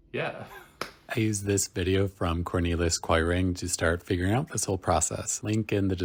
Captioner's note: laughing at self and clapping; voiceover